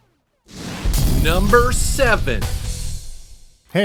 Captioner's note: explosion rumbles